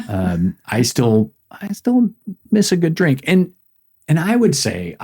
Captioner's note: laughs